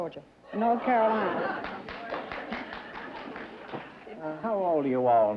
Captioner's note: laughter, applause